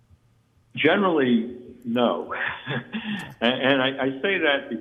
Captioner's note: chuckles